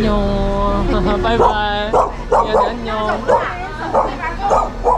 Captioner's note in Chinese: 吠叫